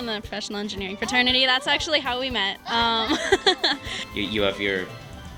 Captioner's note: laughter